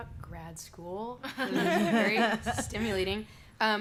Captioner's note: laughter